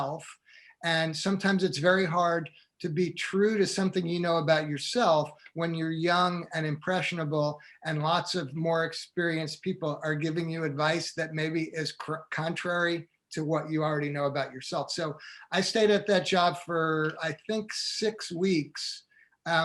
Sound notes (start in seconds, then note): none